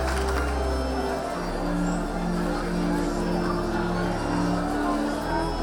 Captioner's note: organ music; audience chatter